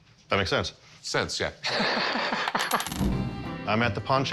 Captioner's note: laughs